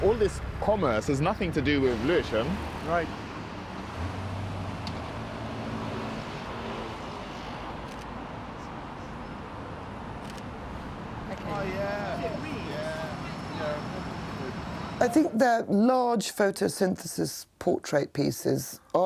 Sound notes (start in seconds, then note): 4.2 traffic noise; 7.6 camera clicking